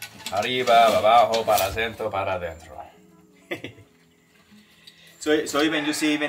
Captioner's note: speaking in foreign language